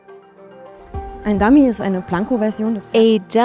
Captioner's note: non-english speech